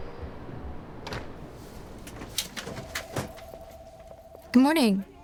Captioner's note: door thumping